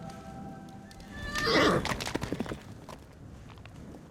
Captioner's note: neighs